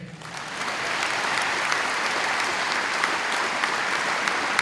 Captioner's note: audience applauding